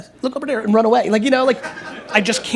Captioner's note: laughter